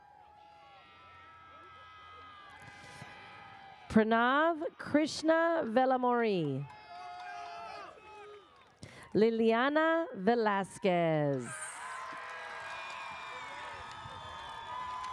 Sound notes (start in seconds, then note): 0.0 audience cheers; 6.6 audience cheers; 11.4 audience cheers